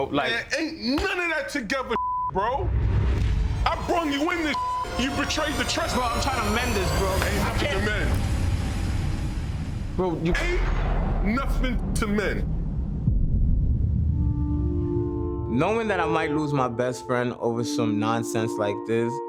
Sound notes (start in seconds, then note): 2.0 beep; 4.4 beep; 15.0 soft instrumental music